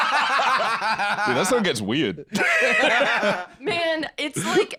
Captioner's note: both laughing; both laugh